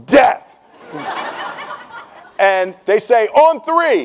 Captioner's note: laughing